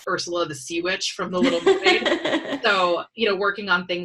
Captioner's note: laughs